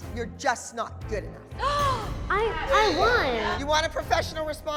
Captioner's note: gasps